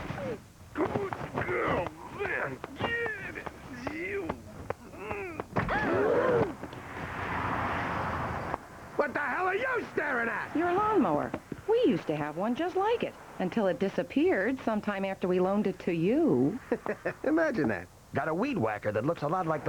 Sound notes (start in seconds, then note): 0.7 grunting and groaning; 6.1 people gasping